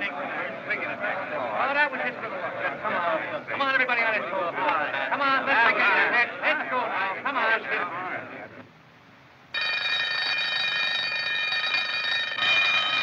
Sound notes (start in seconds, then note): 9.5 bell Ringing